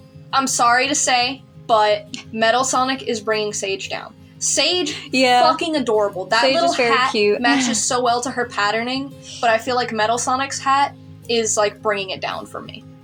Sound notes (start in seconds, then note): 2.3 chuckle; 6.4 chuckle